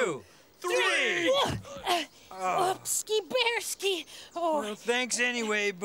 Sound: grunts

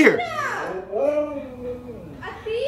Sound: dog howling

